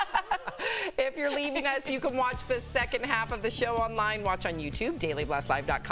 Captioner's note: laughter